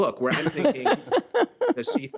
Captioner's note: laughter